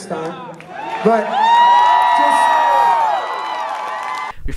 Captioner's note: applause